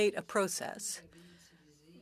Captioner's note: speaking French